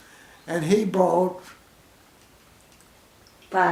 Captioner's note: pause